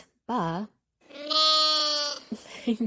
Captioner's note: sheep baas; Koha laughs